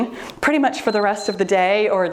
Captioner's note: timer beeps